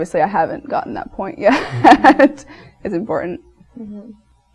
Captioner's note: laughs